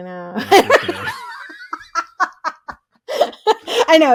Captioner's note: laughing